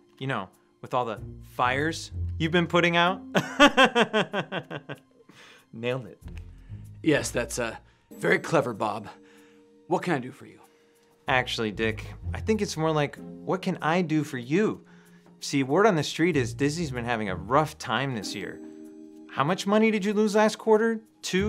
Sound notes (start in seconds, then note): 3.3 Bob laughing